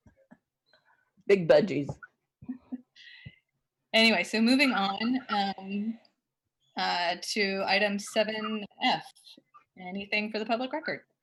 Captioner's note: laughter